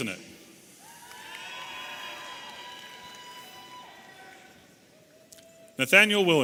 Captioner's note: audience applauding and cheering